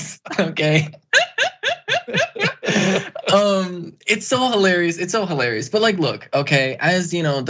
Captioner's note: laugh